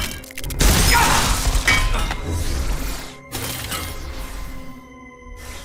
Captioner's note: cracking